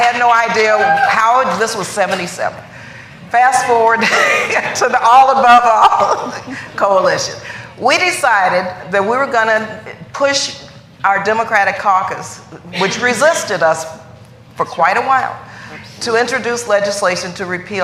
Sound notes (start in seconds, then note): 7.8 laughter